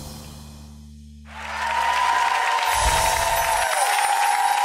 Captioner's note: audience cheers